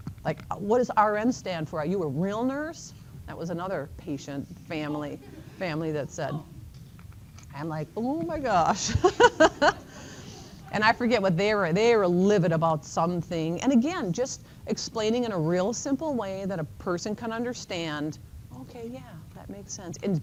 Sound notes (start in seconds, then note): 5.0 laughter; 8.7 chuckles